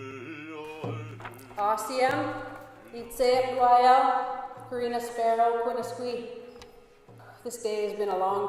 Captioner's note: speaks in clip, introduces self in Musqueam language